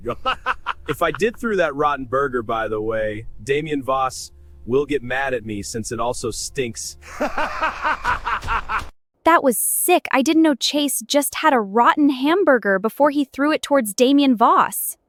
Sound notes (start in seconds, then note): 0.0 laughs; 7.0 laughs